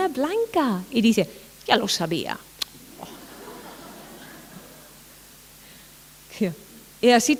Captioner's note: laughter